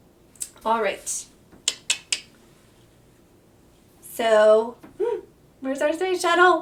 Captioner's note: clicking tongue